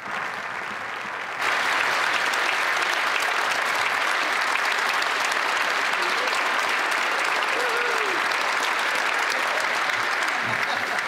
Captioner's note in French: applaudissements